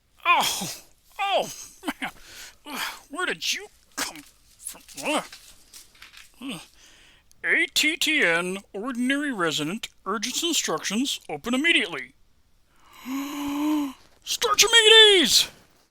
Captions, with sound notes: Ow... oww... man... where did you come from? "A-T-T-N, ordinary resident. Urgent instructions, open immediately." (inhales) STARCHIMEDES!